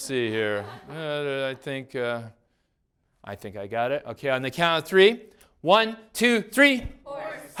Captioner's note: class laughs; class yells responses